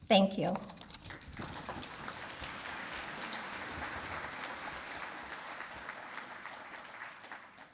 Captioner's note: applause